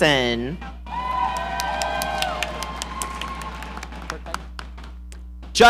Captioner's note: audience cheering